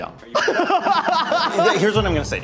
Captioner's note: laughing